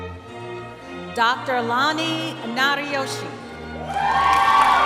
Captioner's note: cheering